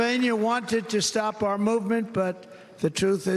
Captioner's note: cheers and applause